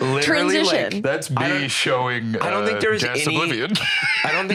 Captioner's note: laughs